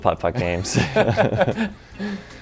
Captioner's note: laughing